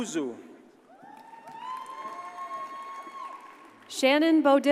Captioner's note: audience cheers and applauds